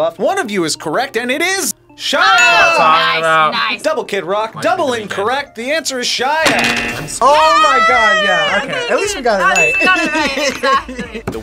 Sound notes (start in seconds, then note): 2.2 bell rings; 6.4 buzzer rings